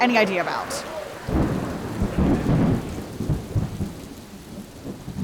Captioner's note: rain and thunder